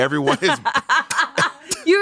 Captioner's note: everyone laughs